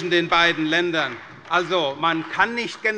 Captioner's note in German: Beifall bei der CDU